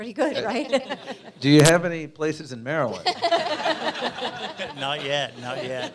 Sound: laughter

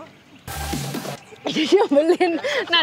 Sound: choked

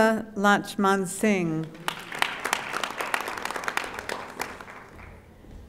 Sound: audience applauding

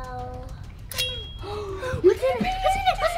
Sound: ting!

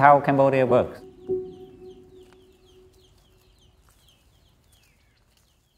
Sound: birds twittering

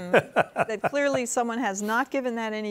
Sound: laughs

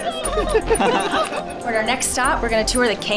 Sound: laughing

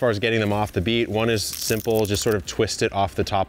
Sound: leaves crack

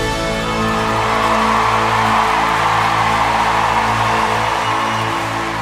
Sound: audience applauding and cheering

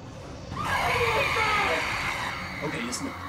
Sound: howling

